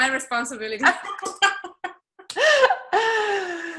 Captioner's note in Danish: laughing